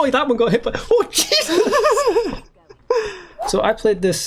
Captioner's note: laughter